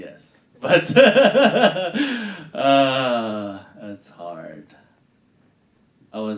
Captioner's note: laughing